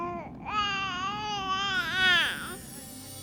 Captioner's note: baby crying